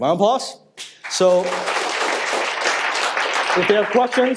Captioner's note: audience applauds